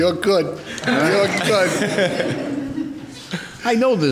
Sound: all laughing

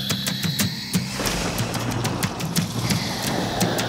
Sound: rolling thunder

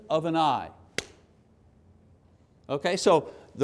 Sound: hands clapping

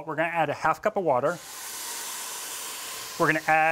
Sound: sizzles

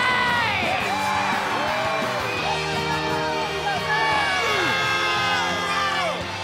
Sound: cheering

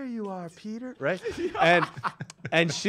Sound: laughs

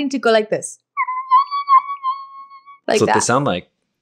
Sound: screeching

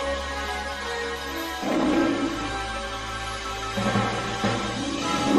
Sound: Leo the Lion roaring as fanfare continues

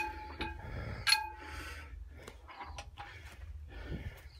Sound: heavy breathing

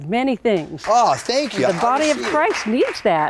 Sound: applause

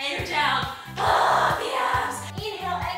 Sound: screams

